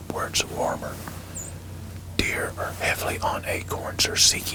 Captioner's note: whispering